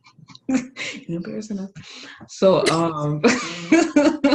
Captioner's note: laughs